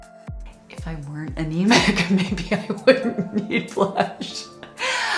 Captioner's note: laughs